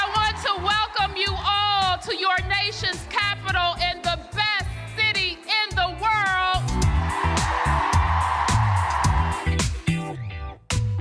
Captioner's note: cheers and applause